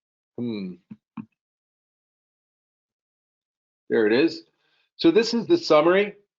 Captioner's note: hums